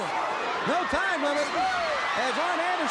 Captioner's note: crowd cheering